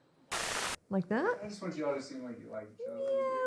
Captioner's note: static